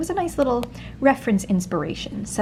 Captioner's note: finger tapping